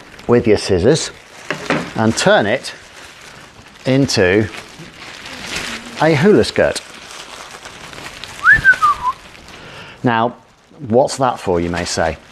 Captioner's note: whistles and shows off his hula moves